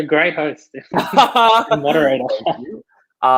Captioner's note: laughs